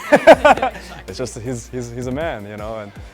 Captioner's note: laugh